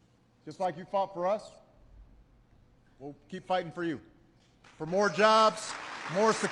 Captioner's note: applause